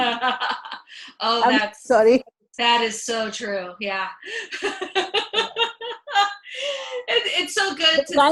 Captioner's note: laughs; laughs